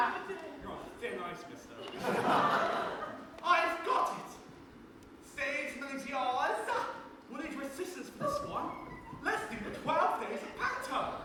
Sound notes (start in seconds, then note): 4.8 in posh voice